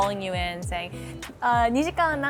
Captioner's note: speaks in foreign language